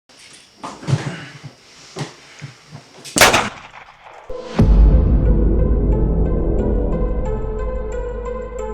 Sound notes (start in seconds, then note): 0.0 grunts; 3.1 gun Shot